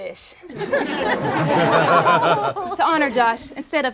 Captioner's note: group laughs